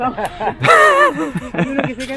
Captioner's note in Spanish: risas